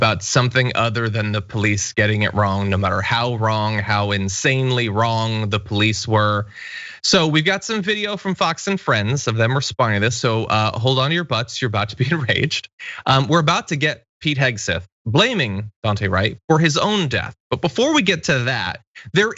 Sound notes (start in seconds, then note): 12.8 laugh